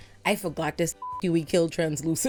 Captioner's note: beep